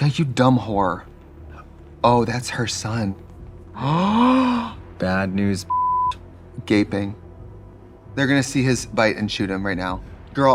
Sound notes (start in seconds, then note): 3.8 gasping; 5.6 beeping